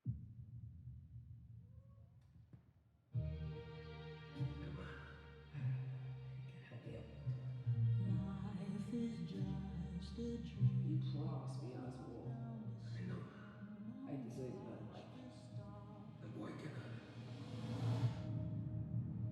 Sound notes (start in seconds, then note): 2.9 gentle music plays; 7.3 whispers; 17.9 tense music plays